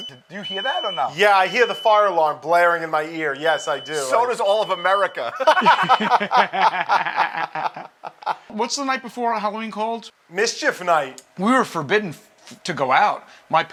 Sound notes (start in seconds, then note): 5.2 laughter